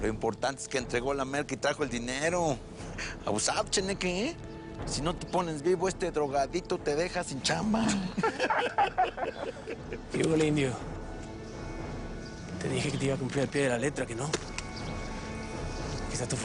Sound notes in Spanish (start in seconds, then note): 7.8 Risas